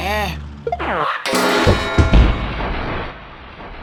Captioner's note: bonk--crash--slam